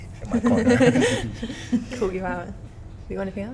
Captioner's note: both laughs